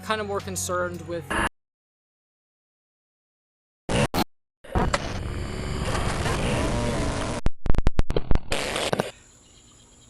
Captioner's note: audio cuts out, followed by distortion